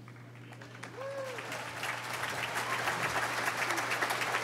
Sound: audience applauding

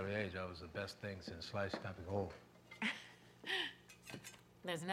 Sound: laughs

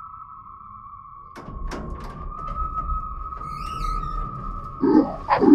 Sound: door opens and creaks

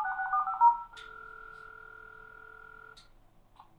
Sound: click

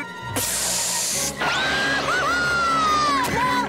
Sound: screaming

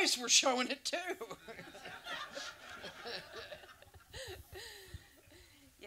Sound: audience laughs

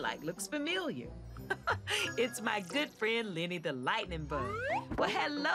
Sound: chuckles

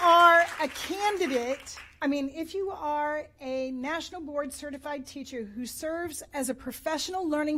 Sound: applause

